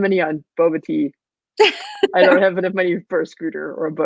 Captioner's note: laughing